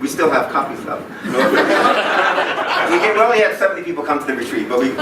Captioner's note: laughing